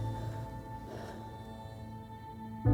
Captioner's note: exhales